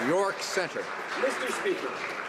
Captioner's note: some Applause